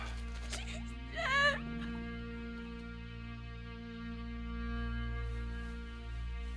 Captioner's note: somber music; cries